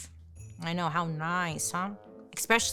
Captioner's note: bell jingles